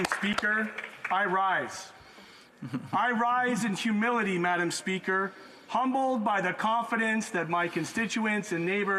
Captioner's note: some Applause